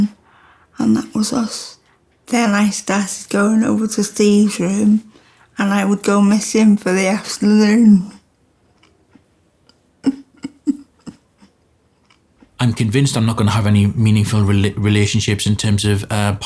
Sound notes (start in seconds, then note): 10.0 chwerthin